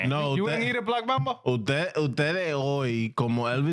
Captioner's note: speaking In Foreign Language